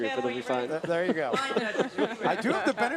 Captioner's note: laugh